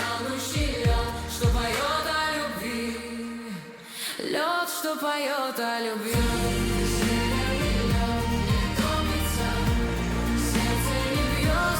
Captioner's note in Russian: фыркает